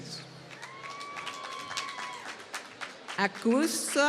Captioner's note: applause